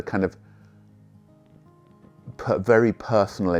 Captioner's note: long pause